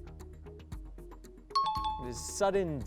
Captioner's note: pinging